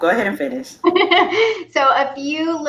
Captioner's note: laughs